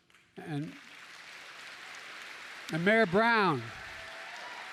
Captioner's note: applause